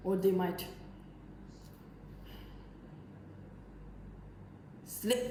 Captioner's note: breathes